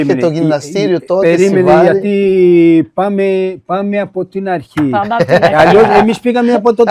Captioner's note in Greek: γέλια